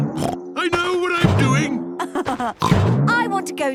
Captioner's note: laughs; snorts